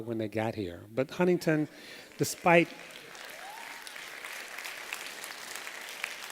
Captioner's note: applause